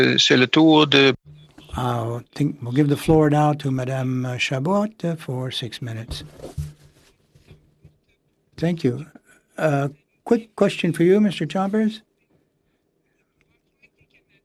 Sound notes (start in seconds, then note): 6.3 speaking French